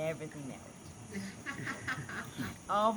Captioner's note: laughing